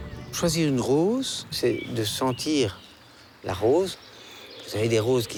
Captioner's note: speaking in foreign language